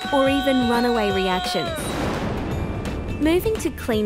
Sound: explosion can be heard

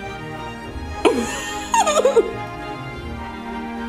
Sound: laughing

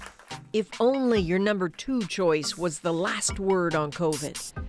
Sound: applause

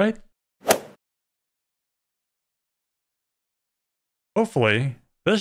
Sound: golf ball hit sound

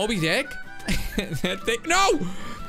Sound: laughs

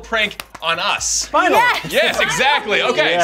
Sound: excited

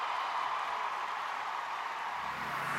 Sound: cheers and applause

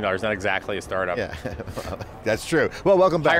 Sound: laughs

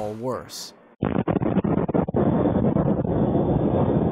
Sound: detonation booms

